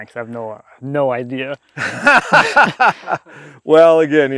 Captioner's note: laughing